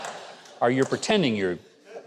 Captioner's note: audience laughter